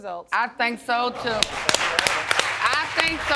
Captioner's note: people applauding